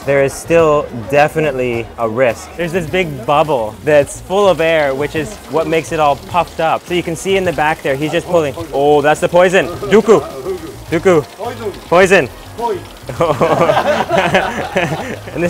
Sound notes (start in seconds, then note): 10.1 speaking in foreign language; 13.0 laughing